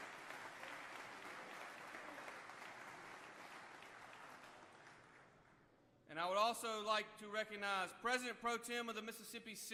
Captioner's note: applause